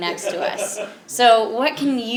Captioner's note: laugh